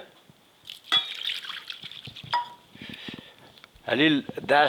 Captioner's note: water sloshing